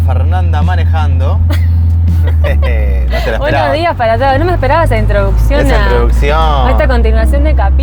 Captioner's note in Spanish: risas